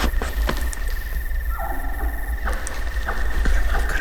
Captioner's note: bull chuckling